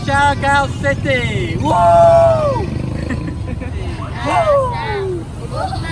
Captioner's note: shouting